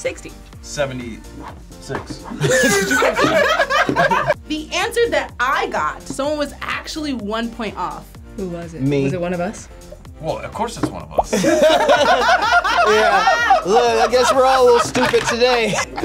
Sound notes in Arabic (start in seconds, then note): 2.3 الجميع يضحكون; 11.3 الجميع يضحكون